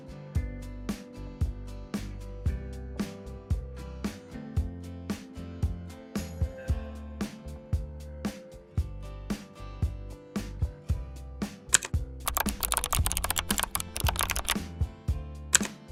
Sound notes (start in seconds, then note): 12.2 keyboard clicking